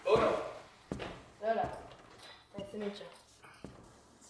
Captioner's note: both speak in foreign language briefly